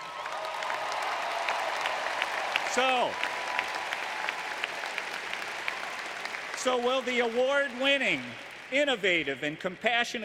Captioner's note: applause